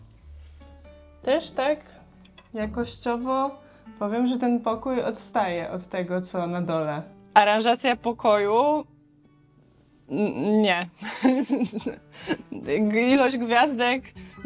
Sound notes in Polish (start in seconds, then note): 11.0 śmiech